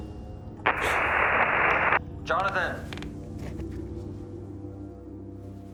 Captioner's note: crackling